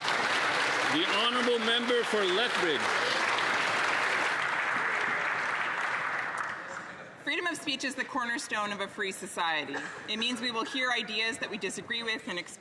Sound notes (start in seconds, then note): 5.7 some Applause